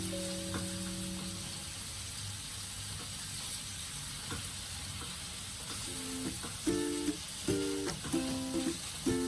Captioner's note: frying sound